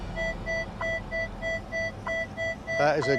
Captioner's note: device beeping